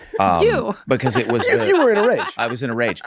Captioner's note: laughs